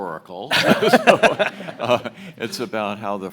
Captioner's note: audience laughs